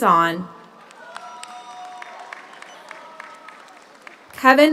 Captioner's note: audience cheers; audience applauds